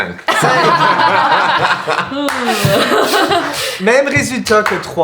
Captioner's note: the group laughs